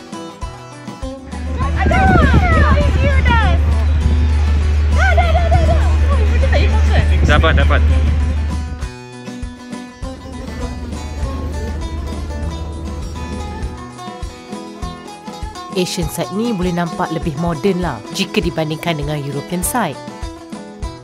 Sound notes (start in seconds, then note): 0.1 background music; 1.5 speaking German; 8.9 background music